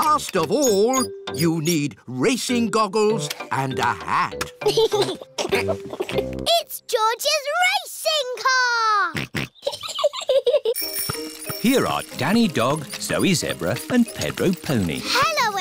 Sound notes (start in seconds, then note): 4.6 chuckles; 9.2 snorts; 9.5 chuckles